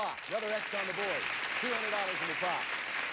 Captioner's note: audience applauding